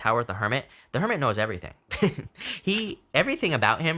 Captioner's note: laughing